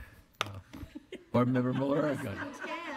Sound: laughter

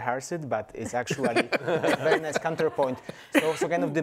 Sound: everyone laughs

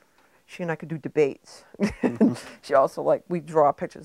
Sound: chuckling

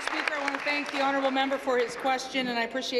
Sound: applause

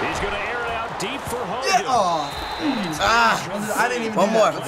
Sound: disappointed grunt

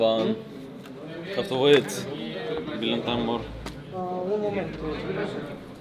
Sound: players speaking in Russian

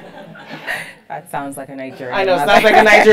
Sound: laugh

